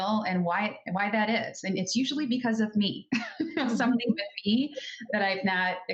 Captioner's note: laughs